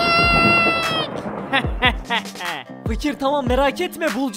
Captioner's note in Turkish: Kahkaha sesi